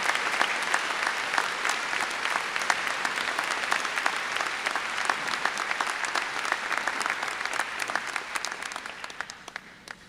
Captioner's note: applause